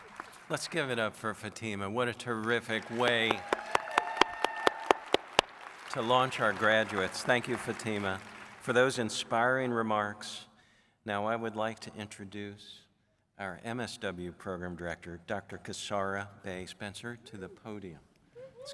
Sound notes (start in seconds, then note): 2.3 audience cheers and applauds